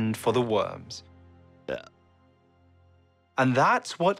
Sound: bacteria eating, burping, and farting

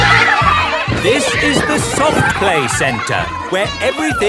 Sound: loudly over shouting

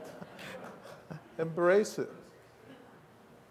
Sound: laughter

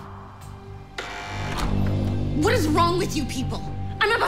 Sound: door buzzes

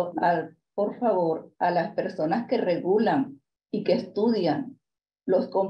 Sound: continues speaking in Spanish

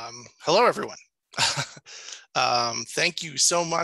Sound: chuckles

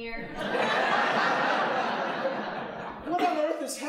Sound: audience laughing

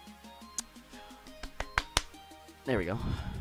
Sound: claps

